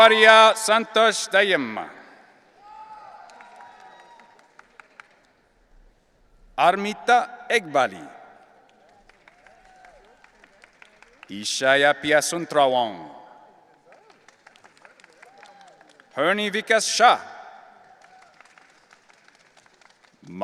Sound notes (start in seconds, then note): 2.6 audience cheering; 8.6 audience applauding; 13.6 audience applauding; 17.8 audience applauding